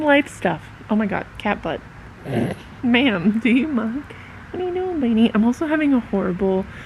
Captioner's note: snorts